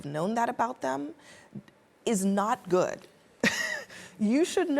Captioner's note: laughs